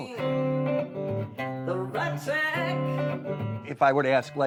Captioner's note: upbeat blues music; vocalizing